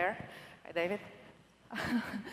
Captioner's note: laughter